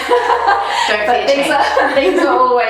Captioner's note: both laughs